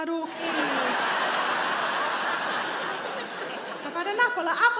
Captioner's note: audience laughs